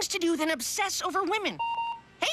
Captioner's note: beeping